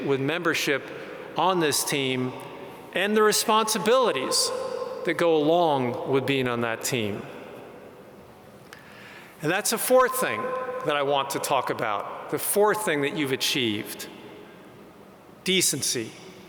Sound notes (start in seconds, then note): none